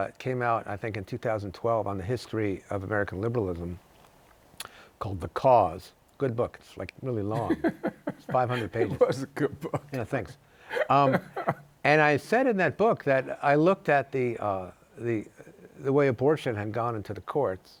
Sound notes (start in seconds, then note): 7.3 laughs